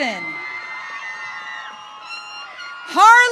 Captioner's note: audience cheering